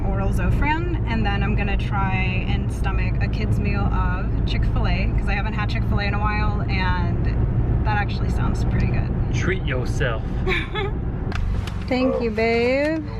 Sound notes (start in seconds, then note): 10.4 laughs